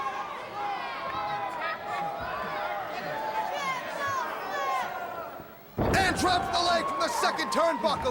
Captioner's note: crowd chatter